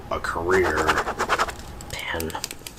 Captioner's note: pen scratching